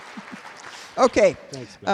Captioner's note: applause